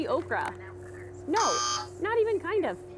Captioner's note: buzzer